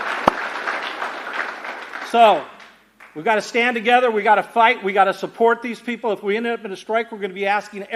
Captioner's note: applause